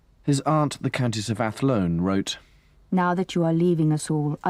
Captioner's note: voiceover